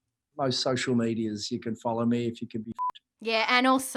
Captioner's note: beep